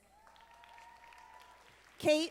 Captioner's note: audience applauding